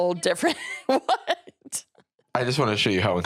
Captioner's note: laughing